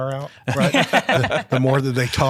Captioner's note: chuckling